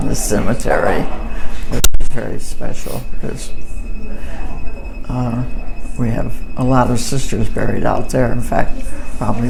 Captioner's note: microphone vibrates